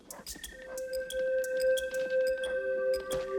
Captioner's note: none